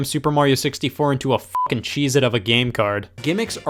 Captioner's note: beep